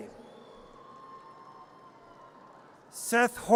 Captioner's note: audience cheers